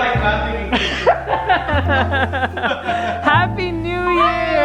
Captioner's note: laughs